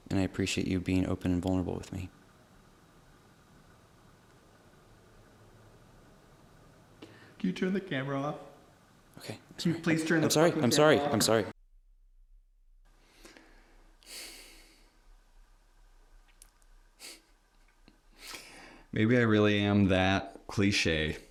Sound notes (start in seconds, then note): 14.0 sighing